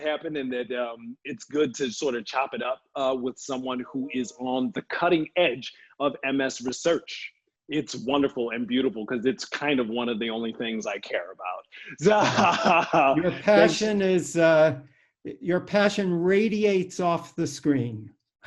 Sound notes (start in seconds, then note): 11.7 laughing